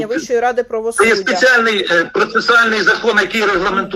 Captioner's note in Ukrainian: сміх